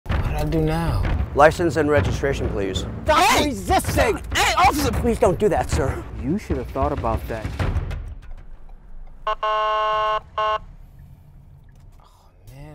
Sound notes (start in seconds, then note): 2.8 people arguing; 9.2 car horn honking